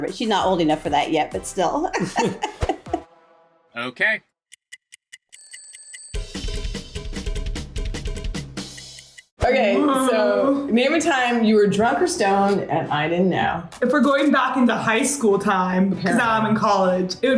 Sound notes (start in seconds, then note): 1.9 laughs; 1.9 chuckles; 4.5 clock ticking; 5.8 upbeat music